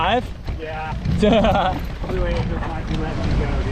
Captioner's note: laughs